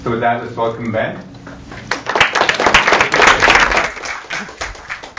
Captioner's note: applause